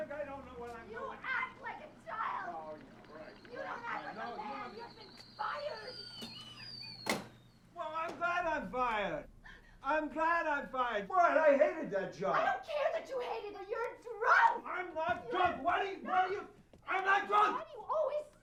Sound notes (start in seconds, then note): 3.0 screaming; 6.9 whistles